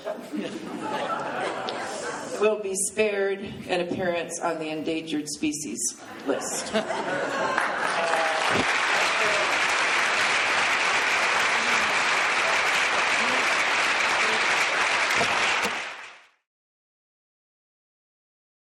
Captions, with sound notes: [laughing] will be spared an appearance on the endangered species list. [applause]